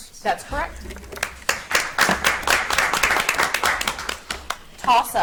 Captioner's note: audience applauds